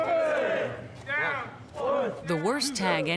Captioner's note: trainees shouting